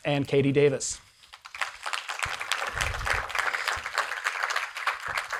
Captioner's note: audience applauding